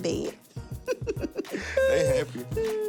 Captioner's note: chuckle